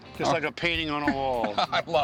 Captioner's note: laughs